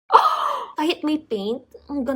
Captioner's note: gasps